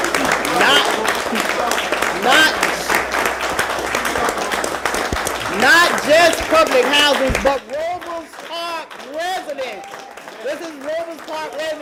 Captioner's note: applause